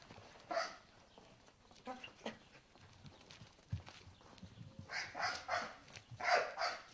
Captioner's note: dog barking